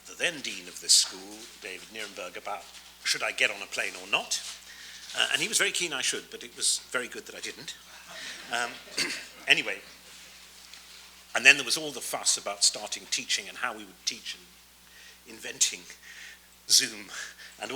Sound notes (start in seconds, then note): 7.9 audience laughs